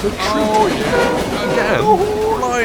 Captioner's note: horn blares